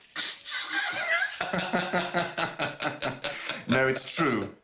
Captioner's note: laughter